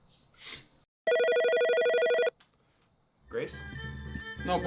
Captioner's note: phone ringing